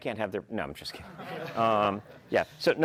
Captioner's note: laughter